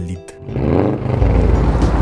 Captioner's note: boxer rumble